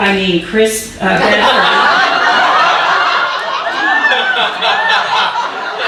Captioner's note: audience laughing